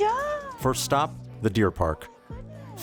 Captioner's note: voiceover